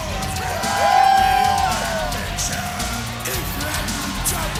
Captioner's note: crowd cheering